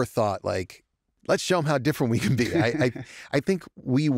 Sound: laughter

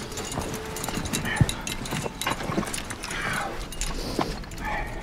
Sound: grunting

